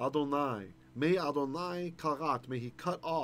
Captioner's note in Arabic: بالعبرية